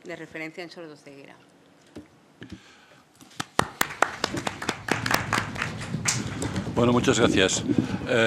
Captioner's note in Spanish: Aplausos